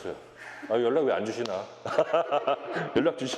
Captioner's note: laugh